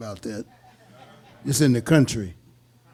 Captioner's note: audience laughing